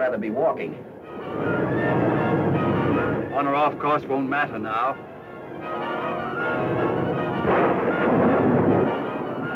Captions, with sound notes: (dramatic music) - On or off course won't matter now. (thunder rumbling)